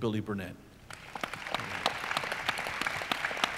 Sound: audience applauds

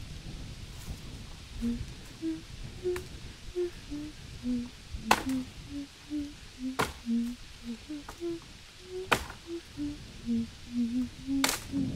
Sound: keeps humming the same tune

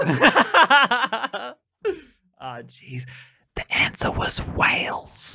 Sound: laughing; whispering to the listeners

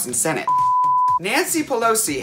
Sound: beep

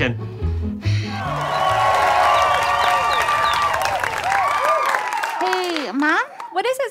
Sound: audience cheering

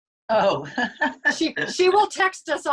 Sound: laughs

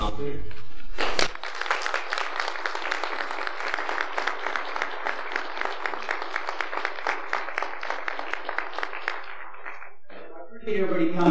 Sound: applause

